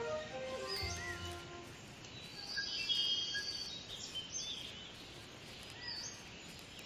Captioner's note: birds chirping; water flowing